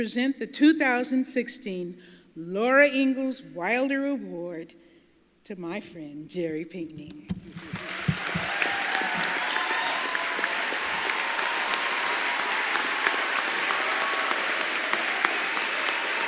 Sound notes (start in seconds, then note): 12.8 applause